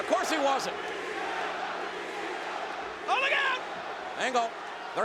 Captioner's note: crowd chanting